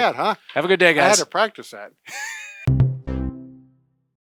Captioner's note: laughs; upbeat music